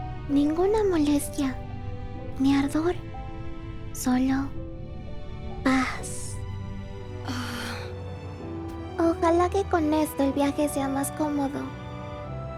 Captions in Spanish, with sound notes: dolor, ninguna molestia ni ardor... Solo... paz... (Suspiro suave) Ojalá que con esto el viaje sea más cómodo…